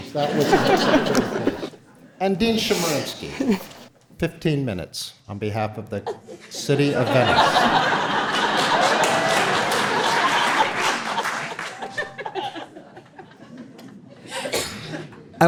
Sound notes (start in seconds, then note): 0.0 audience laughter drowns out speaker; 6.0 audience laughing; 11.6 giggles